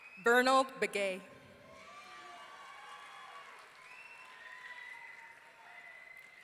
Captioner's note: audience cheering